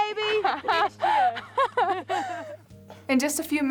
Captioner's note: laughter